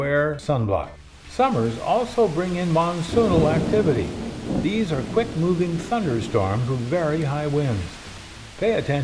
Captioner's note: heavy storm